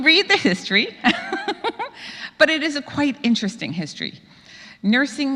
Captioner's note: laugh